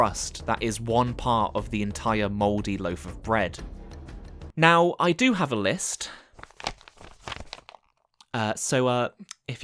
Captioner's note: paper rustle